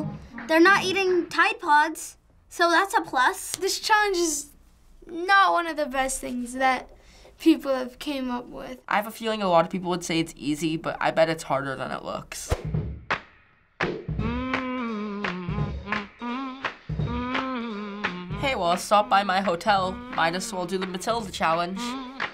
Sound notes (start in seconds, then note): 12.6 humming